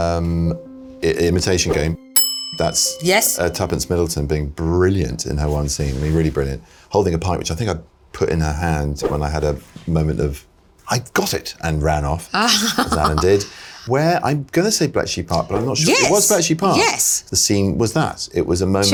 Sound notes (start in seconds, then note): 2.1 bell dings